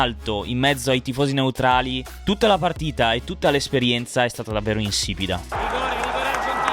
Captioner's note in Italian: Applauso